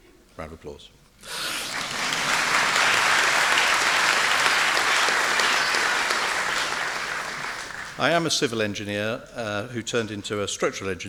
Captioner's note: round of applause!